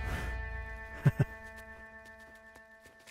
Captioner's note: Keshav laughs